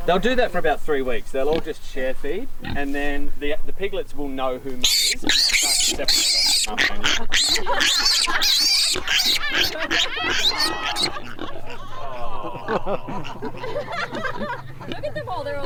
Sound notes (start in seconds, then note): 5.2 pig squealing; 7.3 women laughing